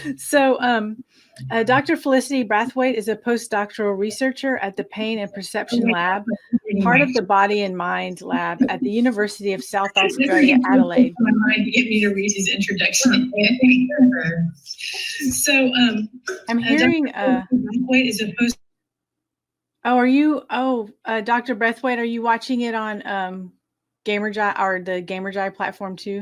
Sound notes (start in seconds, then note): 11.1 feedback interruption